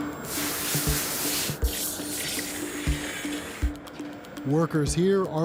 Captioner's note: sizzling